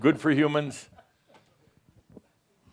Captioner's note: someone chuckles